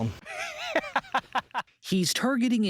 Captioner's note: laughter